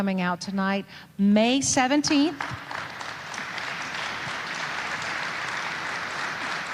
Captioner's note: audience applauding